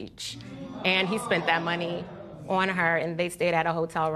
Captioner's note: spectators exclaim